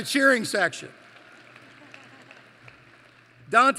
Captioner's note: applause